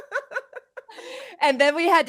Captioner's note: both laugh